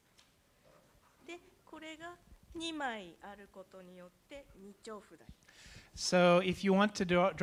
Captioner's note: speaking japanese